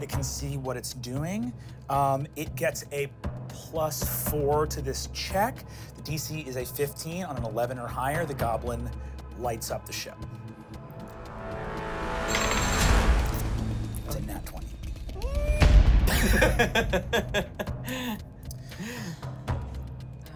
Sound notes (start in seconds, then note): 15.5 whimpers; 16.0 laughs